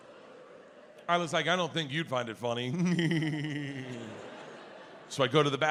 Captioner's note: giggles